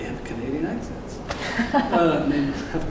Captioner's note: laughter